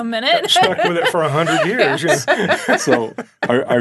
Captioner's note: laughing